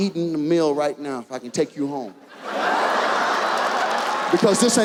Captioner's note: audience laughs